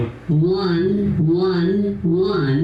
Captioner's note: voiceover